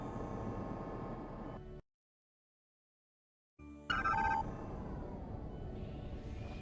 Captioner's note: beeping